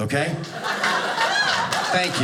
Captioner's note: audience laughing